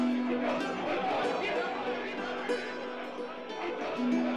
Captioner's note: angry crowd noises